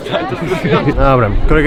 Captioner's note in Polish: śmiech